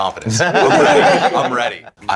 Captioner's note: laughing